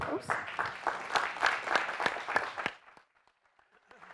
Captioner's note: clapping